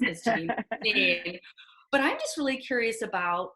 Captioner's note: laughs